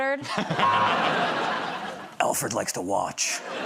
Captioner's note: laughter